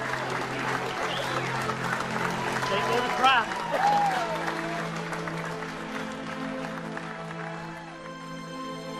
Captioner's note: applause